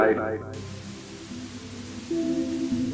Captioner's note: TV static